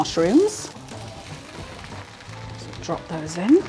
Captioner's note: mushroomy tumbling